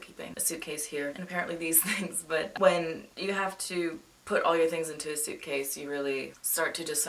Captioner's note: chuckles